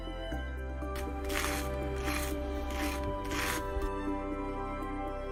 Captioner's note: bread grinding